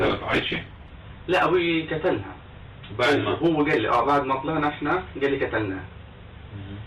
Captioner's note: speaking in foreign language